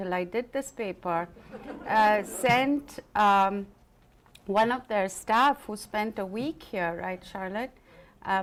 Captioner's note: laughter